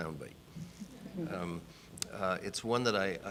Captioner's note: audience laughing